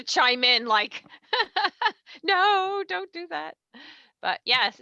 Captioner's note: laughs